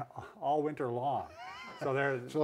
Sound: laughter

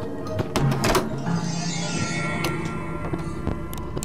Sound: erie Noise

